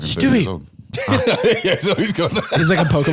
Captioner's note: laughs